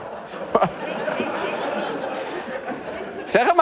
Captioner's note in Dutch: gelach